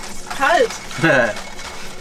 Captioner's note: laughs